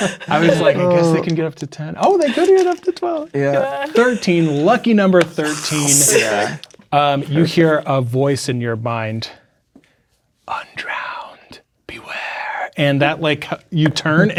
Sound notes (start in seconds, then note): 10.3 as whispering voice